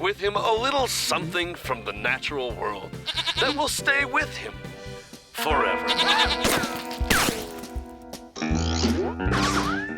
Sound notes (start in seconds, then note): 3.0 bleats; 6.0 screaming